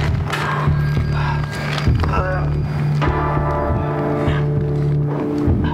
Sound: sounds of struggle

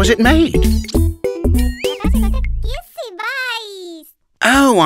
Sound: speaks gibberish excitedly

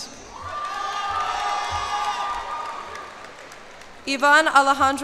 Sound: cheers and applause

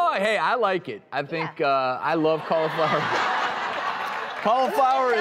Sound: laughter

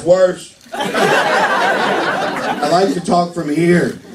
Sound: laughter

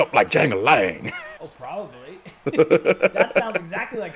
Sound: laugh

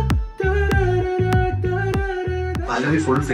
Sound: humming

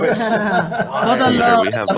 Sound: all laughing

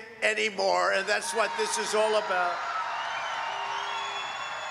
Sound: applause

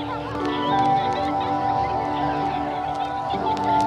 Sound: child laughs

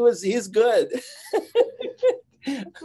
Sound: giggling

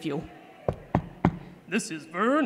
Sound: knock knock knock

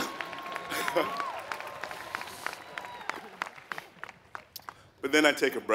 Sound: applause

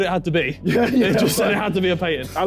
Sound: laughing

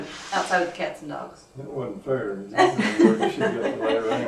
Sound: laughter

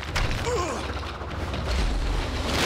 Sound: groaning

